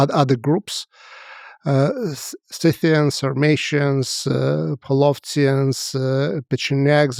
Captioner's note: speaks foreign language